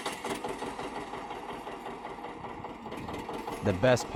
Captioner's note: engine starting; engine rumbling